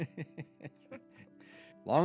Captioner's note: laughs